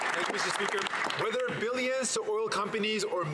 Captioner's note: some Applause